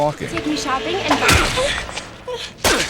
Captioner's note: stab